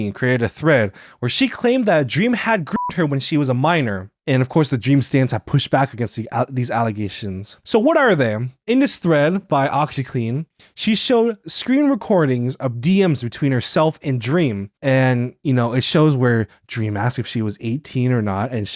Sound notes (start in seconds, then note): 2.7 beeps